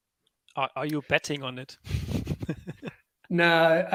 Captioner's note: laughs